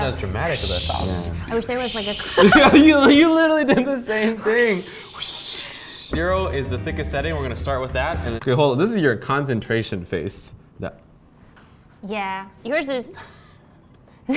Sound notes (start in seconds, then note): 1.8 laughs; 4.4 hushing